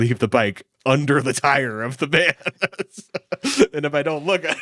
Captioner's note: laughs